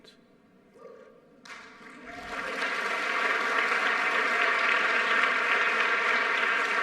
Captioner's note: audience clapping; audience cheering